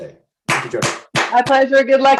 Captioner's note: claps